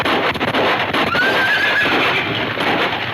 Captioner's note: gunfire pops; horses neighing